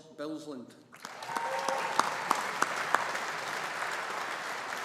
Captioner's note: audience applauding